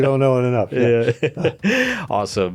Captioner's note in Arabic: يضحك